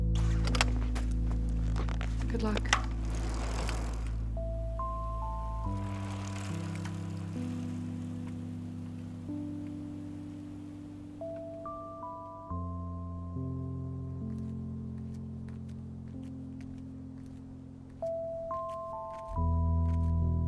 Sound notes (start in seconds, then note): 0.1 kickstand clicks; 2.8 bike rattling